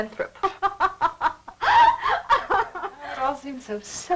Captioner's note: Janice laughs